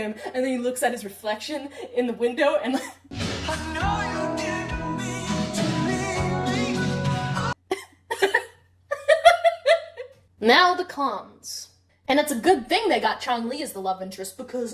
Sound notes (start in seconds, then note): 2.9 laughing; 8.9 giggling